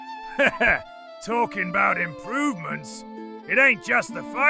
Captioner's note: laugh